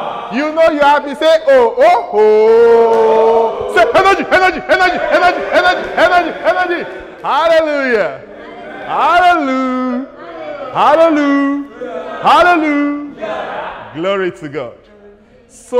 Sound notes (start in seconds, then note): 11.0 excited Talk